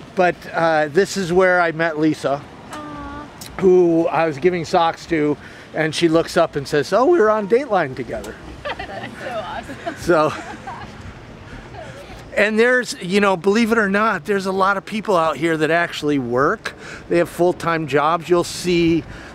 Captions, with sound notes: But, this is where I met Lisa. Who I was giving socks to and she looks up and says oh we were on dateline together. (laughter) - That's so awesome. - So... And there's, you know, believe it or not, there's a lot of people out here that actually work, they have full time jobs, you'll see